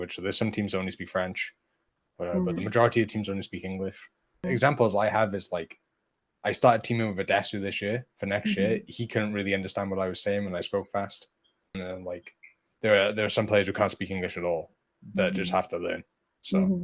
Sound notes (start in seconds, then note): 7.4 Spanish